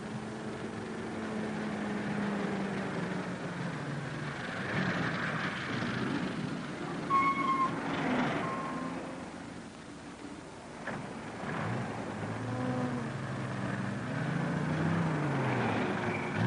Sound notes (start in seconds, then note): none